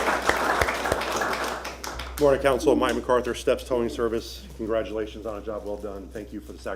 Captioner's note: applause